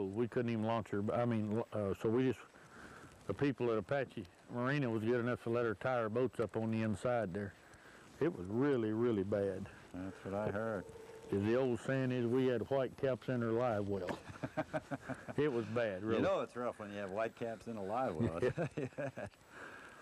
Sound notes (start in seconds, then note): 14.0 laughter